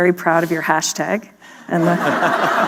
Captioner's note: laughter